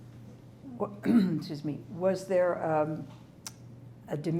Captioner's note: clears throat